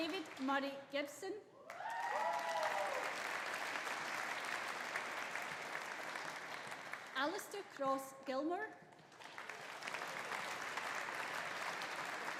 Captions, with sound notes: David Murray Gibson. (AUDIENCE APPLAUDING) (AUDIENCE CHEERING) Alistair Cross Gilmour. (AUDIENCE APPLAUDING)